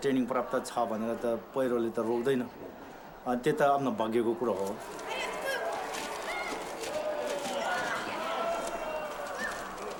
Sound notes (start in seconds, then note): 5.7 wind noise